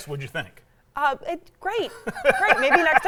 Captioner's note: laughs